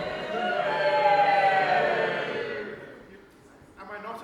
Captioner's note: audience: BOOOOOOOOO